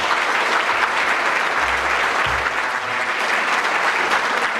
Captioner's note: audience clapping